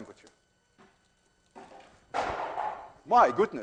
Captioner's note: can clanks, clatters onto floor